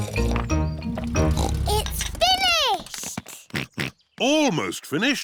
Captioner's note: slurping; george oinks; oinks